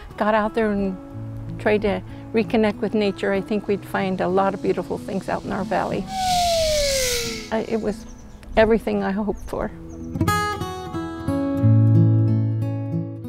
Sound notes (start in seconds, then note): 5.9 zip line whirring